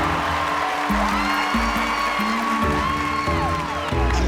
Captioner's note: applause